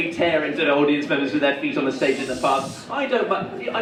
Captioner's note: audience member shushes